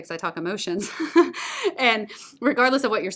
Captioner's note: laughter